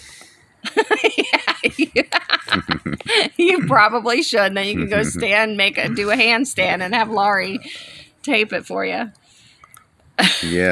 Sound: laughs; laughs

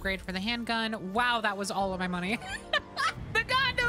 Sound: laughter

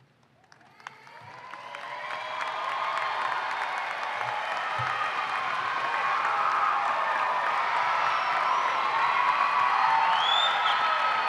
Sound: applause and cheering

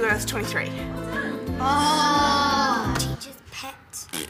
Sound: kids groan

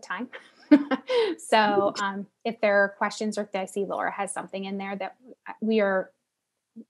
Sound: laugh

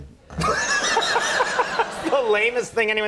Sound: laughter

